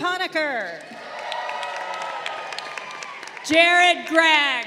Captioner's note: crowd cheering